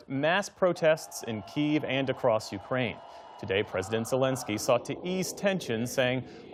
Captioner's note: crowd chanting